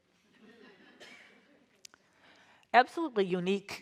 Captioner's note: audience laughs